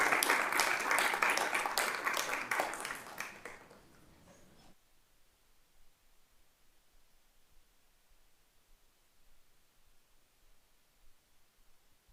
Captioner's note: applause